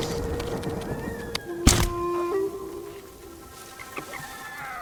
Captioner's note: thunder rumbling; screaming